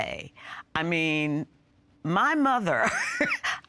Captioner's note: chuckling